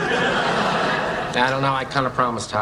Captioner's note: laughing